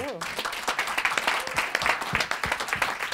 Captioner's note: applause